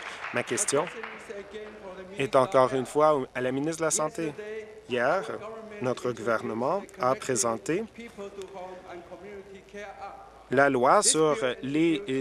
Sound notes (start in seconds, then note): 0.0 applause; 2.0 applause